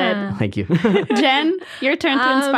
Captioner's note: laughing